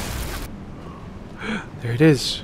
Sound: gasps

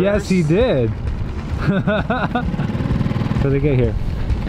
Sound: chuckles

